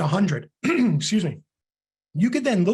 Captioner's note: clears throat